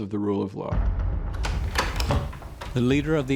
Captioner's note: door opens